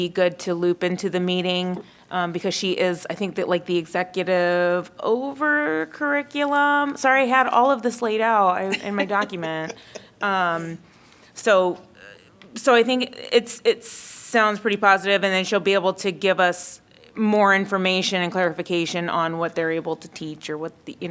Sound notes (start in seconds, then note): 8.6 laughter